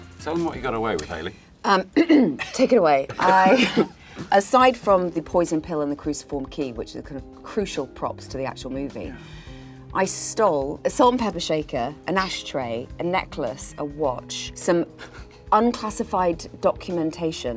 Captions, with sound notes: Tell him what you got away with, Haley. [clears throat] Take it away. I-- aside from the poison pill and the cruciform key, which is kind of crucial props to the actual movie, I stole a salt and pepper shaker, an ashtray, a necklace, a watch, some unclassified documentation